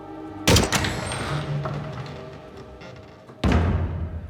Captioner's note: door squeaks